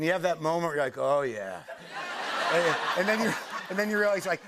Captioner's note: laughter